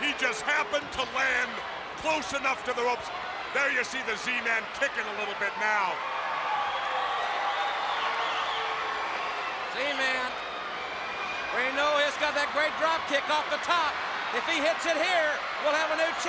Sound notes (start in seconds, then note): 6.2 crowd cheering